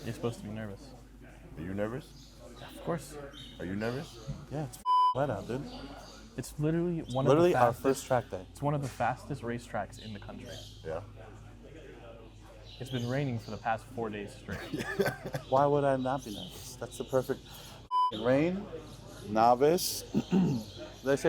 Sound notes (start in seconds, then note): 4.8 beep; 14.5 laughs; 17.9 beep